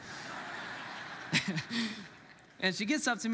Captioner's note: congregants laughs; laughs